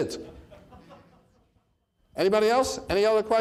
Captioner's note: man laughing in audience